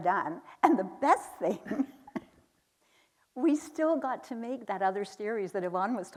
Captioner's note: chuckles